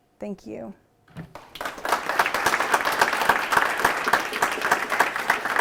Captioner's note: applause